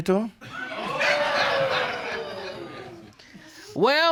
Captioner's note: audience gasping